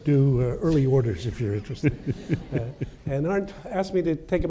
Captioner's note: chuckles